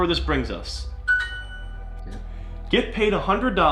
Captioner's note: computer chimes